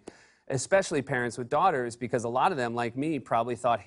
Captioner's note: none